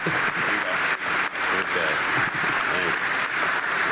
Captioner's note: applause